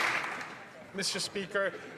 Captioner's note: some Applause